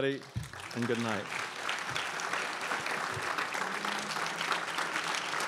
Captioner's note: crowd applauds